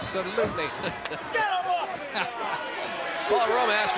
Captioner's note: laugh